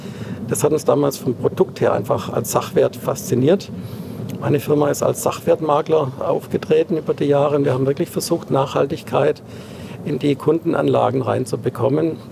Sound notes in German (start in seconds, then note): none